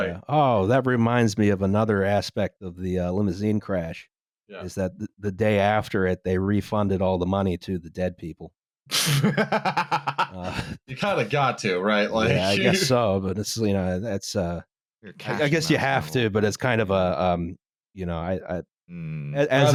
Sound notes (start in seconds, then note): 9.0 laughs with gusto; 12.4 chuckles